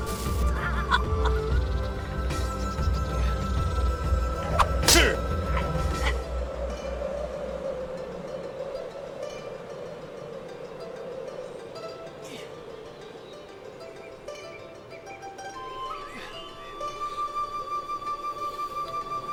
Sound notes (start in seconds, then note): 0.9 Night gasping; 6.7 wind howling; 15.9 pleasant flute music